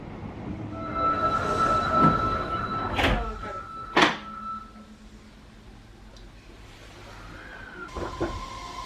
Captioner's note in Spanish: sonido de cierre de las puertas, y aceleración del metro